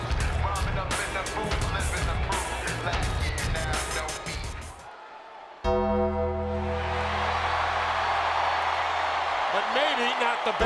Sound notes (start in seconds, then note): 5.7 bell ringing; 6.6 crowd cheering